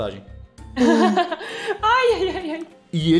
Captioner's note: laughter